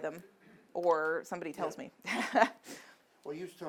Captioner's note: laughs